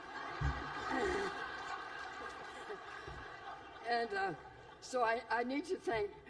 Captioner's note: laughter